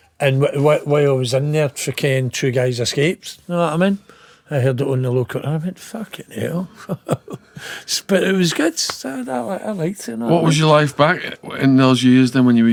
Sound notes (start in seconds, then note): 6.2 laughing